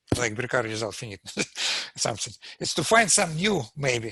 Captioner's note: laughs